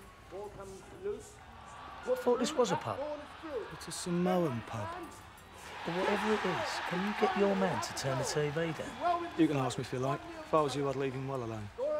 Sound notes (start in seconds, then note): 4.8 cheering on TV